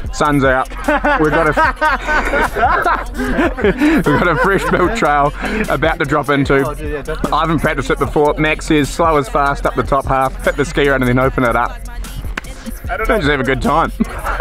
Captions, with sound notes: Sun's out. We've got a (Laughter) We've got a free float trial about to drop into I am infact to sit before max is slow is fast up the top half fit the skier out and then open it up. And just have a good time.